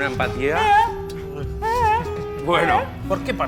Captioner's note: yawn playfully